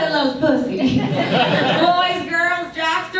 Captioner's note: audience laughs